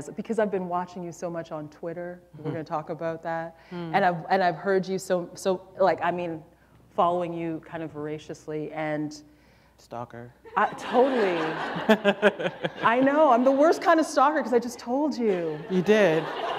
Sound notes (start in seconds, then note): 10.5 laughter